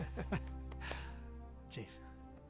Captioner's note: men chuckle